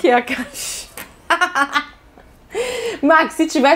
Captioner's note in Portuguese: risos